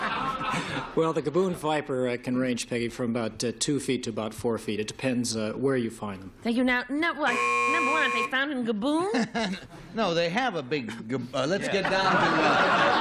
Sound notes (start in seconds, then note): 0.0 laughter; 7.2 buzzer